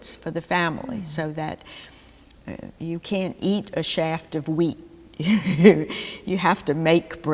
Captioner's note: laughter